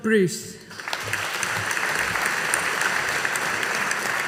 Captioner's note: audience applauding